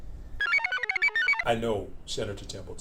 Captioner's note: computer chirps